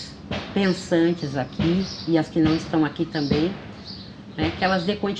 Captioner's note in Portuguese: sons de obra ao fundo